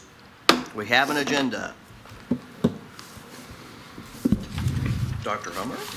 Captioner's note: gavel thuds